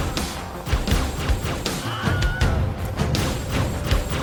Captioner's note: falling scream